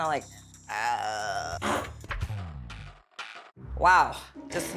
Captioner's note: fart